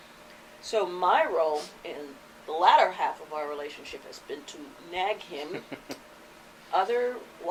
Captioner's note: chuckles